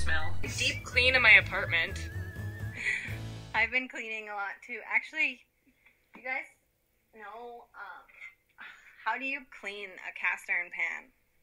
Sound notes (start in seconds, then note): 2.4 laughs